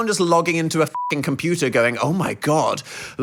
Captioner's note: beep